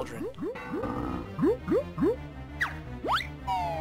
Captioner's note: cauldron sounds